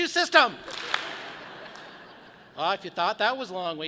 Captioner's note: audience claps